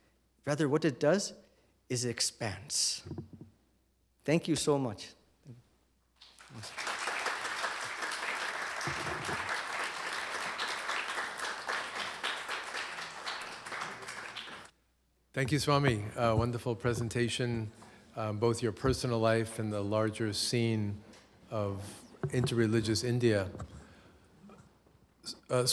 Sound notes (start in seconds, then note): 6.7 applause